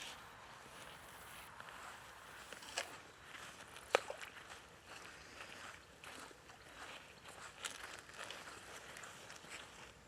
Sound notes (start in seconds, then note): 2.5 Mercer crunching; 3.3 water bubbles